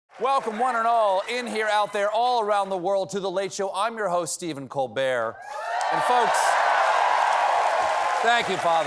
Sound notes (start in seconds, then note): 5.4 cheers and applause